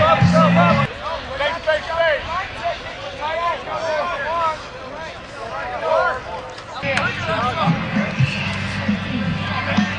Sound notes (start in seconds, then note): 0.0 indistinct shouting